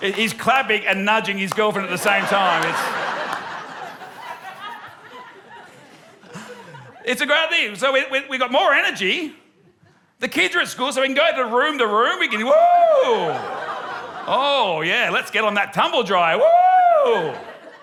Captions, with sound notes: He's clapping and nudging his girlfriend, at the same time. (LAUGHTER) It's a great idea. So we've got more energy, the kids are at school, so we can go from room to room, we can go, "Whoo! "Oh, yeah, let's get on that tumble dryer. Whoo!"